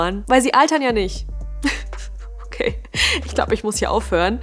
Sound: crying and laughing

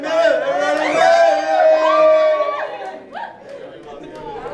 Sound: group cheering

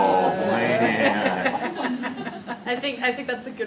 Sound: laughter

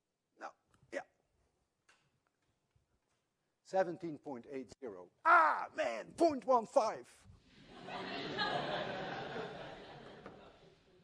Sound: laughter

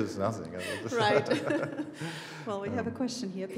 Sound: both laughing

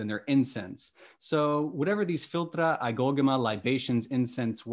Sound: speaking greek

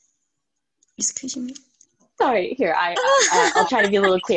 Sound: laughs

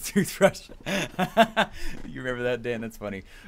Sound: laughs

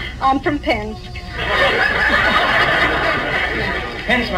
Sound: audience laughs

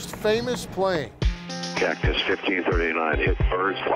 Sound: mutters

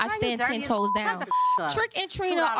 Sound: beep

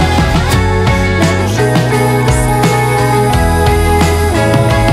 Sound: vocalizing

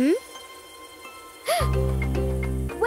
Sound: gasps

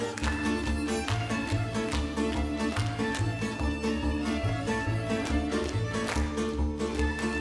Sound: men clapping, slapping; upbeat music

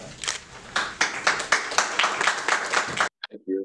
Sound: clapping

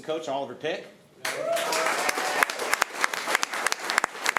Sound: applause

